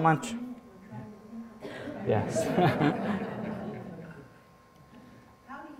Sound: laughter

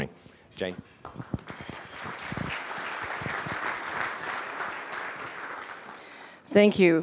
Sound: applause

